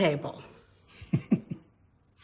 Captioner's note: chuckles